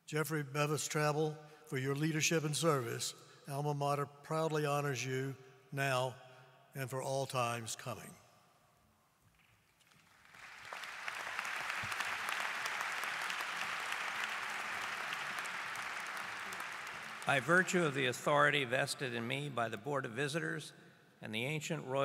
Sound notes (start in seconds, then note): 9.8 applause